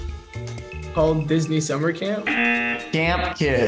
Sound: buzzer rings

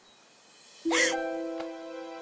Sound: gasp

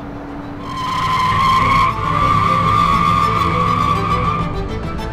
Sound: squeal of tires

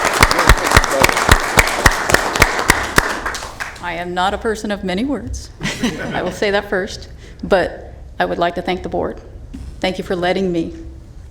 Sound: applause

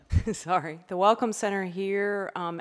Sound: laughs

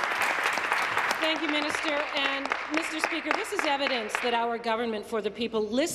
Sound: applause

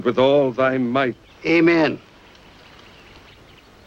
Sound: none

